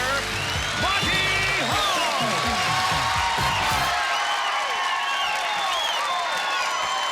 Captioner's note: applause and cheering